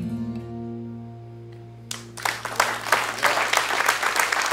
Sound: cheers and applause

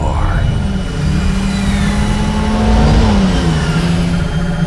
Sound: Motor heult auf

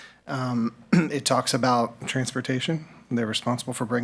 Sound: clears throat

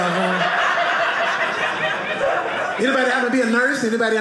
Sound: audience laughing

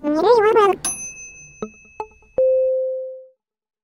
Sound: ding

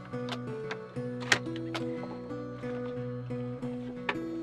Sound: gentle music; gentle thud

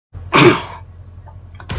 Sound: clears throat

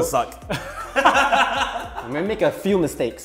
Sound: everyone laughing

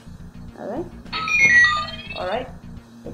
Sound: computer trilling

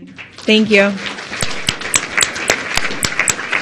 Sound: applause

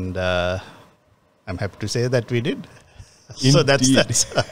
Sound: laughs

